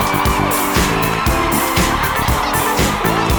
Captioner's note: laughter